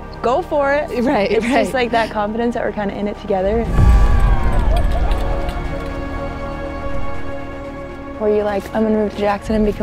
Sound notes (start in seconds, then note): 3.7 crowd cheering; 3.8 dramatic music continues